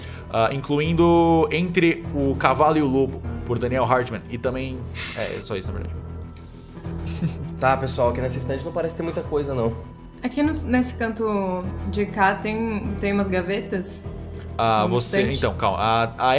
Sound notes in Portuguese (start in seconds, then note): 7.0 risada